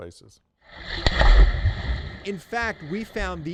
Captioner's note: water splashes